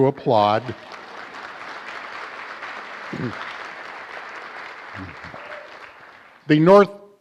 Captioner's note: applause